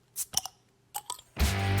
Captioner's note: bottle cap pops off; rock music plays